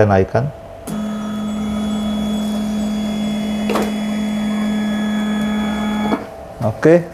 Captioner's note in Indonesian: suara mesin printer